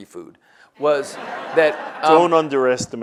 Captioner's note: audience laughs